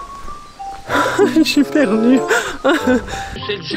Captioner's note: laughs